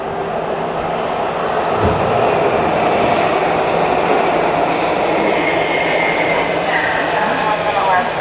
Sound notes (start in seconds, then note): 1.6 subway train roars